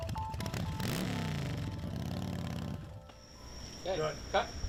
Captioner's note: gentle music; motorcycle engine revving